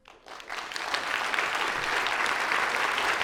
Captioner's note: applause